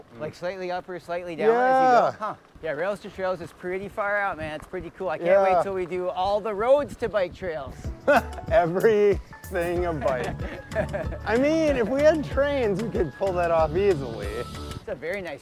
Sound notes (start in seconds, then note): 7.9 laughs; 9.8 laughs